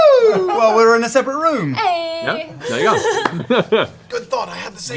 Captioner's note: chuckles